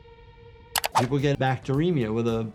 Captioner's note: mouse clicks